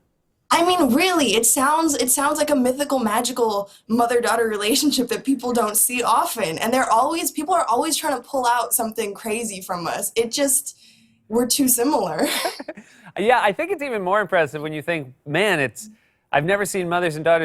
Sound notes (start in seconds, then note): 12.2 both laugh